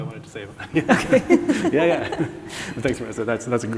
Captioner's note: chuckling